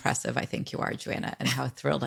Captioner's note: laughs